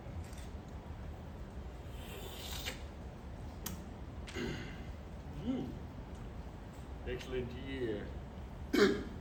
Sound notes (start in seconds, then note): 2.2 smacks Lips; 8.7 coughs